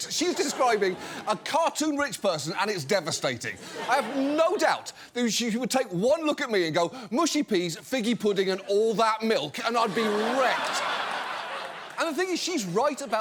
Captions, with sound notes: She is describing a cartoon rich person, and it's devastating. I have no doubt that she would take one look at me and go, "Mushy peas, figgy pudding, and all that milk," and I'd be wrecked. (LAUGHTER) And the thing is, she's right about